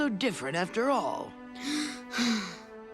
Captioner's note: sighing